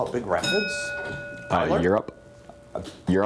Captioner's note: ding